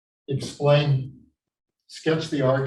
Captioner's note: chalkboard tapping loudly